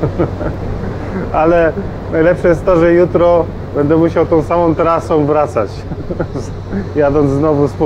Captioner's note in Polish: śmiech